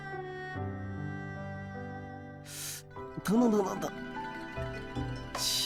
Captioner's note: hisses in pain